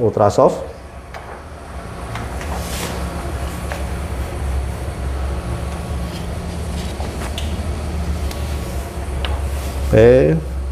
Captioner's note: PET film noise